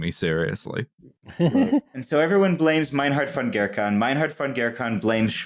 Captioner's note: laughs